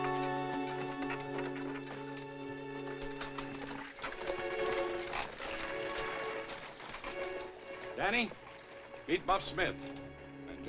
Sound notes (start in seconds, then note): none